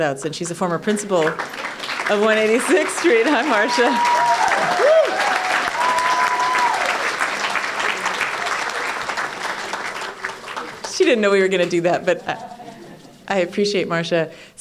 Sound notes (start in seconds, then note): 4.2 applause and Cheers